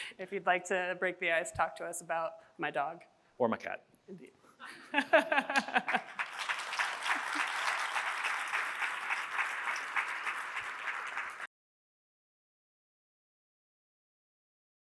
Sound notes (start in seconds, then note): 4.6 chuckles; 5.3 audience applauds